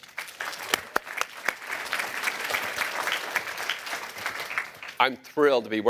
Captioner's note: applause